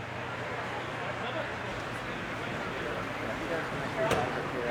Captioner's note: none